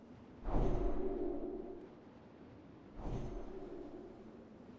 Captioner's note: whooshing